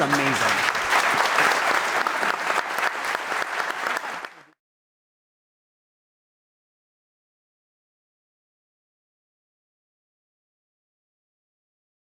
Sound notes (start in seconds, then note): 4.0 audience applauding